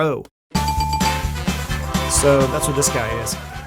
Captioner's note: lively music; bell dinging